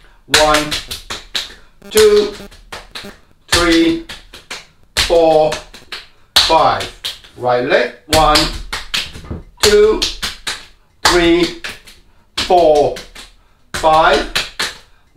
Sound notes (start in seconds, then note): 0.3 slapping; 3.5 slapping; 9.6 slapping; 12.4 slapping